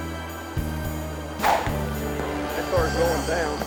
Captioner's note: screen whooshes